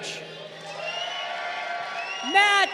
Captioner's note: crowd cheering